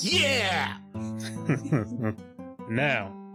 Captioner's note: chuckles